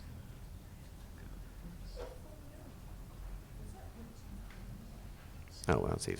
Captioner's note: audience chattering indistinctly